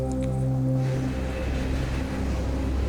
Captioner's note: train rumbling